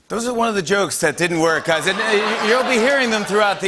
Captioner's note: laughter